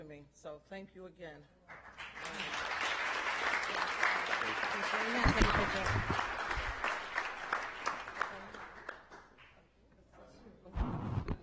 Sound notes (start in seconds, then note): 4.2 audience applauding